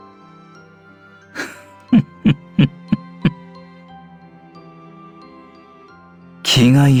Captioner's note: chuckling